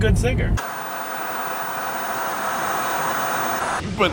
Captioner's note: static